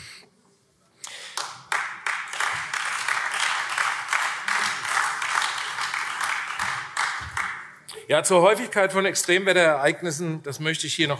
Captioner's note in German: Beifall AfD